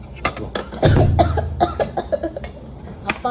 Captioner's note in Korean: 켁켁 / 사레 들림